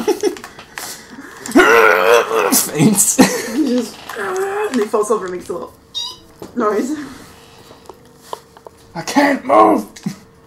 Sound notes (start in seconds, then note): 9.1 squeak